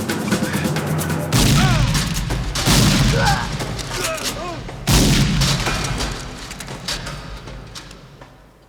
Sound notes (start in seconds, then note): 1.3 gunshot